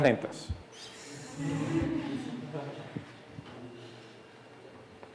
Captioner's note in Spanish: Clase ríe